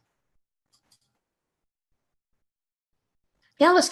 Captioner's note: mouse clicks